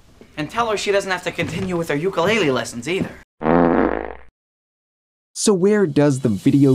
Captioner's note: farting sound effect